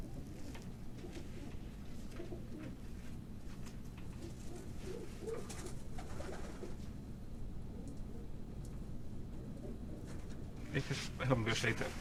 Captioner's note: pigeons cooing